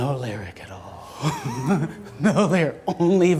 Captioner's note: laughs